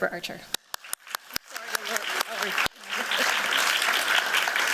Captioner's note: applause